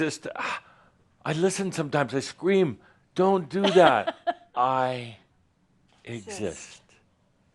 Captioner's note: she chuckles